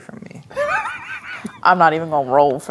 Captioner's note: laughing